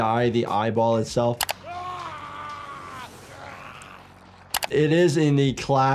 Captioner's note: computer mouse click; man screaming